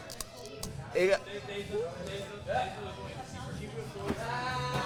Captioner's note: cracker crunches